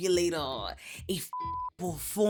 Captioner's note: beep